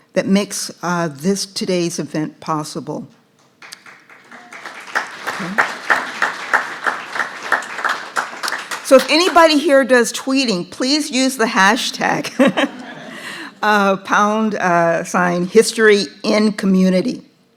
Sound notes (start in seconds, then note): 3.6 audience clapping; 12.4 laughs